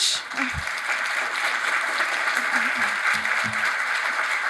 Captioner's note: audience applauding